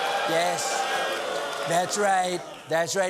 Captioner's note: applause